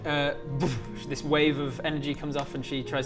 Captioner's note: boof